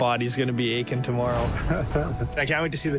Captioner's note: both laughing